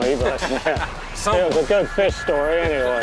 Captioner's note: laughs